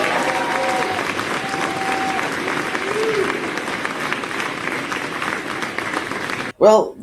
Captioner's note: audience applauds